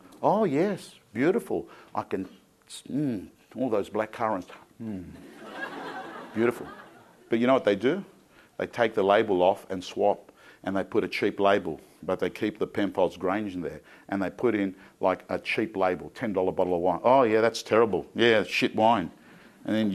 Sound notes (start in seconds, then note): 5.2 crowd laughing